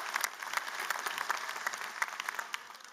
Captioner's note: applause